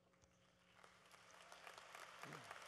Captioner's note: applause